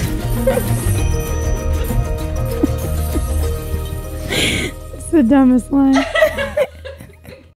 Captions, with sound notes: (upbeat music) It's the dumbest line (laughing).